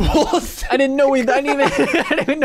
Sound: everyone laughs

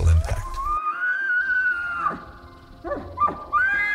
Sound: elk bugle

